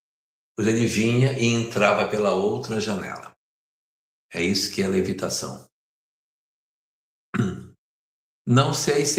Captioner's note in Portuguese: limpando a garganta